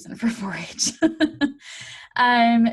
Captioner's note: chuckles